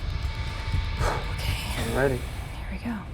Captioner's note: whispering; exhales